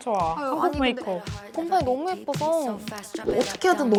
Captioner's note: smack